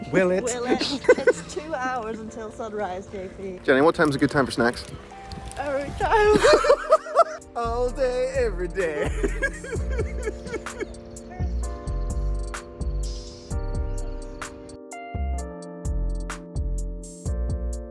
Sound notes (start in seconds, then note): 0.4 laughs; 6.0 laugh; 8.8 laughs; 9.8 gentle lo-fi hip-hop music continues